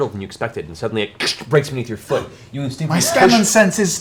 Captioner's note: cracks